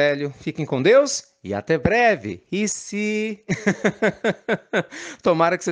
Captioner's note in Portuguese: risadas